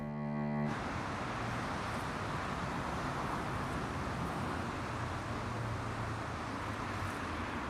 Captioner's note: freeway traffic